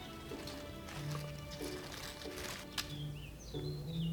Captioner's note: rustling